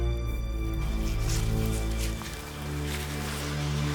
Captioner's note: rustling